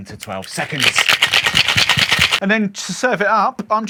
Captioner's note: ice clinking